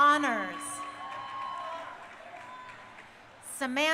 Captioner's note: crowd cheering